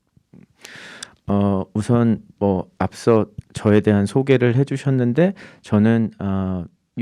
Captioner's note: speaking in Korean